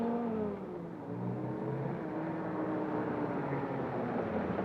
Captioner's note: jeep engine humming